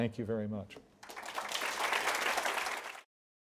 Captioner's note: applause